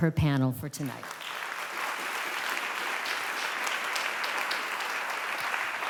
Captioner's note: applause